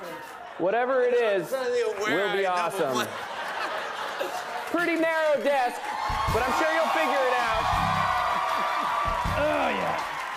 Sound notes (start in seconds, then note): 2.7 laughter and applause; 7.3 cheering and applause; 8.0 laughing